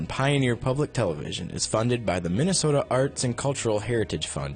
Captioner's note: voiceover